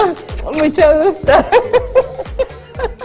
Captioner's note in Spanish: risas